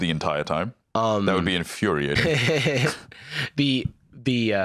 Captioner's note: laughs